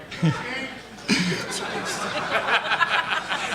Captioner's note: laughing